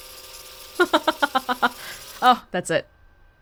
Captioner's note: chuckles